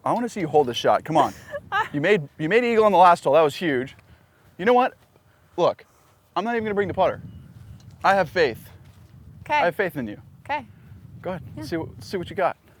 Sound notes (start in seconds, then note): 1.4 laughs